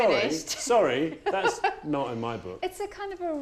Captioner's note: aide laughing